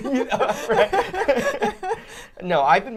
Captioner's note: all laughing